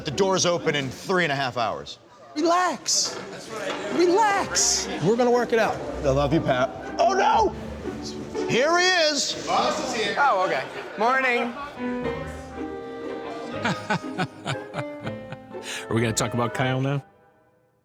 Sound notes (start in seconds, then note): 13.6 laughing